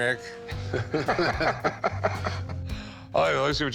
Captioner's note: both laughing